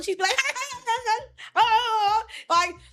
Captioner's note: laughing